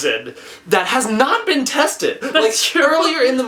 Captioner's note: laughs